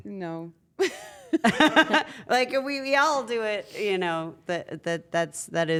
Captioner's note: laugh